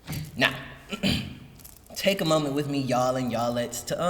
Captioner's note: clears throat